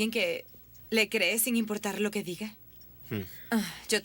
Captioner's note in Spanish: suspiro